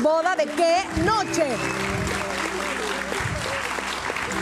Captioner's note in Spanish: Aplausos